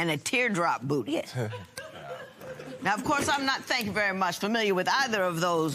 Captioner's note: laughter